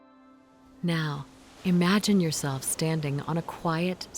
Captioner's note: waves flowing